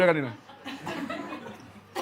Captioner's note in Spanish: Risas